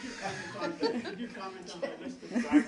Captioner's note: laughter